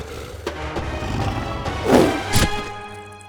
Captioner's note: roar